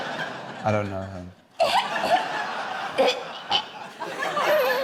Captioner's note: imitates retching